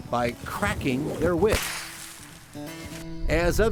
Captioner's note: whip cracking